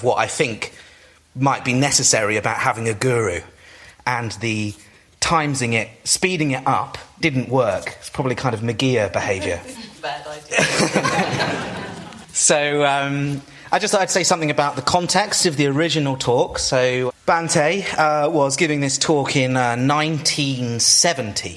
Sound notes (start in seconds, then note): 10.5 laughter